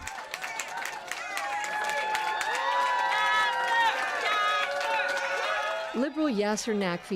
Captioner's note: applause, cheering